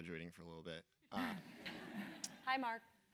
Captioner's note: laugh